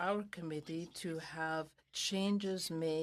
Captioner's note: speaking in french